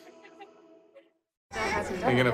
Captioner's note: laughs